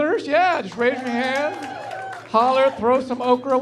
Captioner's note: applause